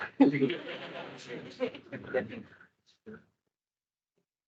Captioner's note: attendees laughing